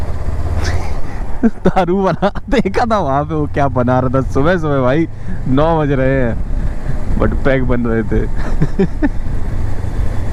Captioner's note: chuckles